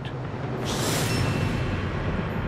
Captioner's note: hisses